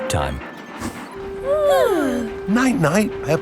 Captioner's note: both yawning